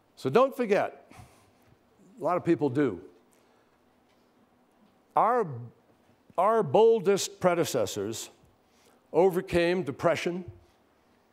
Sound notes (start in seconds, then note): none